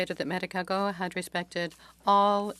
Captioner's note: speaking French